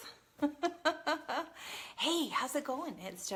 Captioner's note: laughs